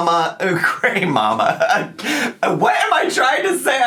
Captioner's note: laughs